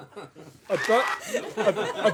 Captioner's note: applause